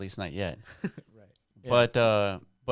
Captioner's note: laughing